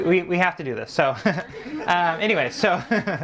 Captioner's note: audience laughing; laughs